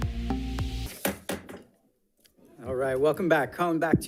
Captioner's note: gavel pounding